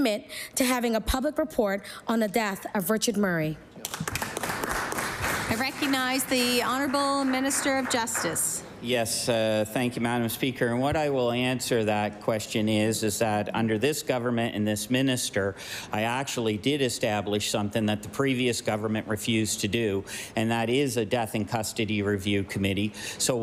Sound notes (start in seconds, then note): 7.6 applause